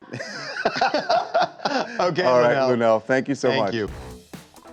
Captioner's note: laughter